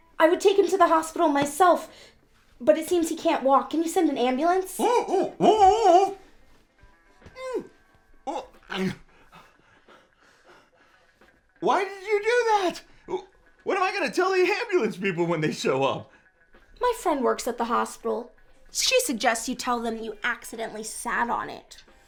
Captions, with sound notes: I would take him to the hospital myself, but it seems he can't walk. Can you send an ambulance? (Butch yelping) (panting) - Why did you do that?! What am I gonna tell the ambulance people when they show up? - My friend works at the hospital. She suggests you tell them you accidentally sat on it.